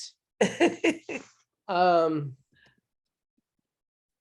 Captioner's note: woman laughs